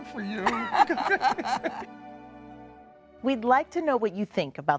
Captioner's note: both laugh